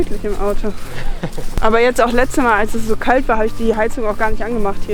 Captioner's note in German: lacht